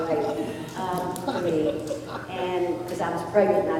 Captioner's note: laughter